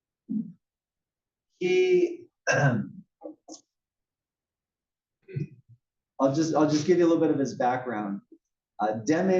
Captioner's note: cough